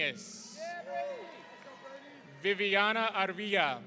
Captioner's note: audience cheering